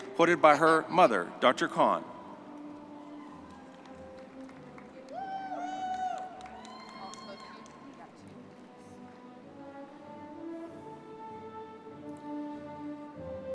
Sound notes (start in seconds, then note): 4.1 soft gentle music; 5.1 audience cheering